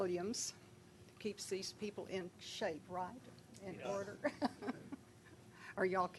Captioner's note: laughing